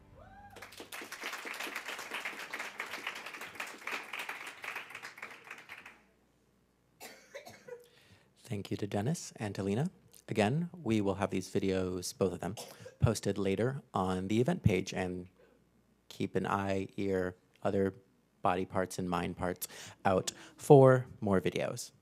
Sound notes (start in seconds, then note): 0.5 applause; 7.0 cough